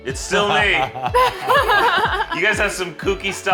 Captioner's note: laughs